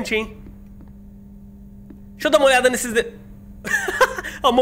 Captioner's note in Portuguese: risos